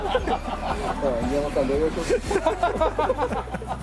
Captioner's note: laughs